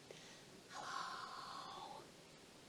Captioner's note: whispers